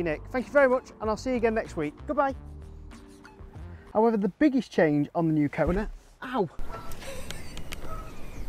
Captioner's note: camera man laughs